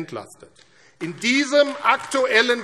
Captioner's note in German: Beifall AfD